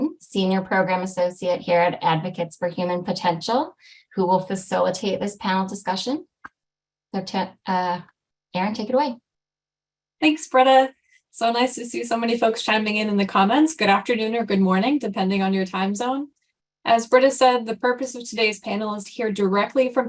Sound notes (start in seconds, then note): none